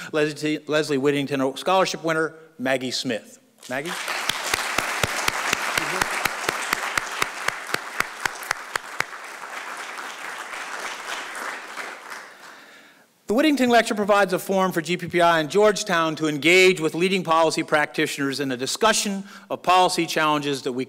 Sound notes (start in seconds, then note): 4.9 applause